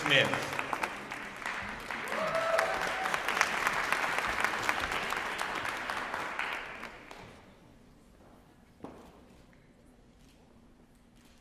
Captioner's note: applause